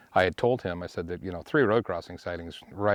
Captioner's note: none